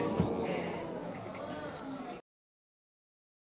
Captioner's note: audience gasping and murmuring